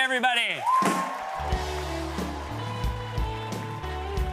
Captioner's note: cheers and applause